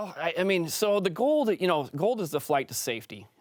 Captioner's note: French